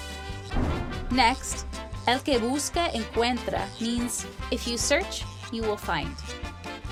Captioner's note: foreign language